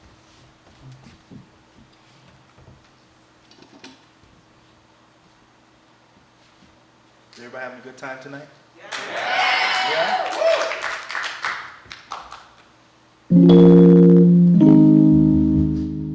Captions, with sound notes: - Is everybody having a good time tonight? - Yes! - Yeah? (audience cheer and applauding) (mellow music)